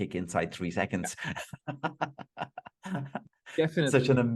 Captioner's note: laughing